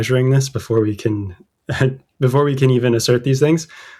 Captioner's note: laughter